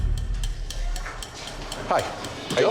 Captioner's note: clock ticking